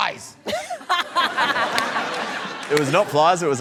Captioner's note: laughter